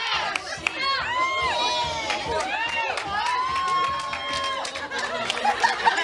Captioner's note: crowd cheering